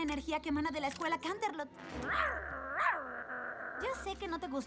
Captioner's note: snarl